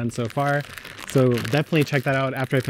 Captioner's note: bag crinkling